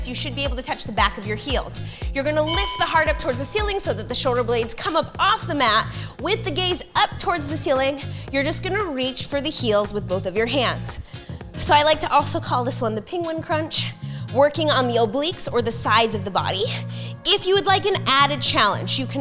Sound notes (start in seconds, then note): 2.4 bell chimes